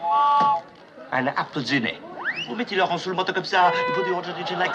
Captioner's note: speaking French